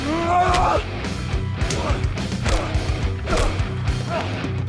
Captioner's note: both moaning; dramatic music